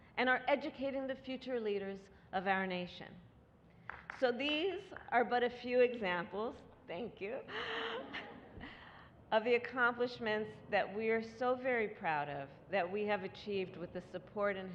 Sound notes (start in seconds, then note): 3.8 applause; 7.5 laughter